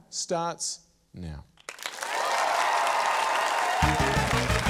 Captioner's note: cheering, applause; quirky theme music